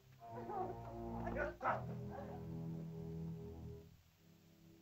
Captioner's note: ominous music; Akhoba speaks angrily in caveman language